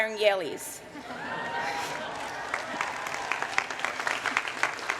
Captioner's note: cheering